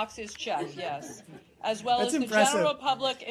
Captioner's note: laughter